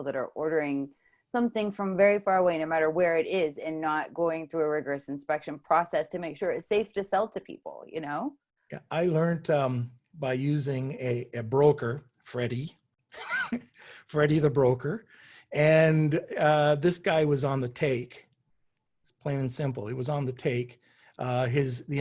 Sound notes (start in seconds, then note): 13.1 chuckles